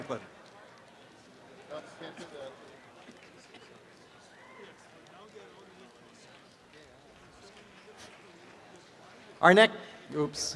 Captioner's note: background chatter